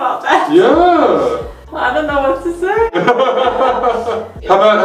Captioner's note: both laugh